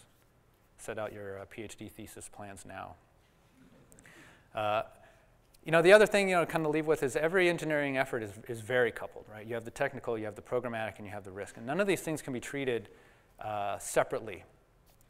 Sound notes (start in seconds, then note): 3.5 laughter